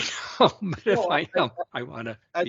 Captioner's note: laughs